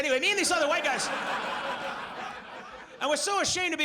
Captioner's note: audience laughs